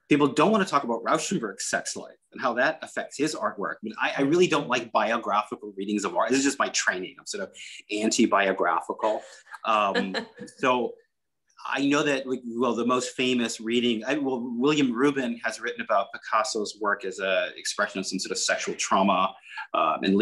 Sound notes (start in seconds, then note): 9.0 laughs